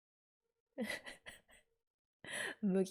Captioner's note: laughs